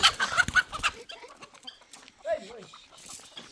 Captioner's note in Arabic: ضحك